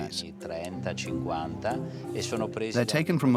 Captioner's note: Italian spoken audio